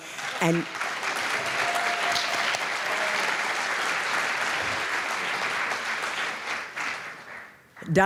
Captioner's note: applause